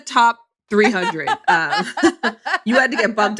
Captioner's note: laughs